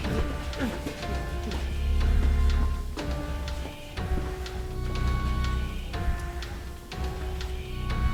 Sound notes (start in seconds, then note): 3.3 banging; 5.2 hissing